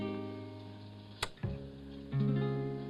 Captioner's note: light switch clicks; melancholy music